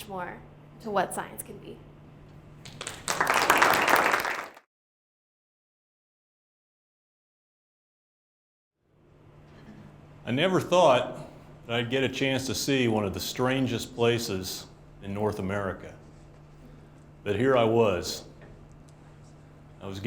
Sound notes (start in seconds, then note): 2.6 applause